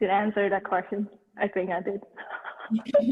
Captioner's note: chuckles